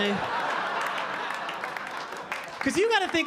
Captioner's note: audience laughing